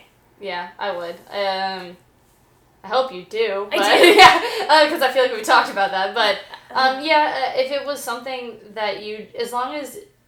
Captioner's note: laughing